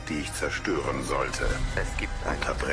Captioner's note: low rumble